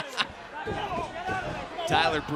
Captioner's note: laughs